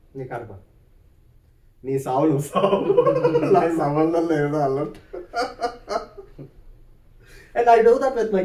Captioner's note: laughs